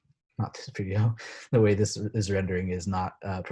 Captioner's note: laughs